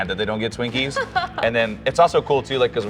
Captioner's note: laughs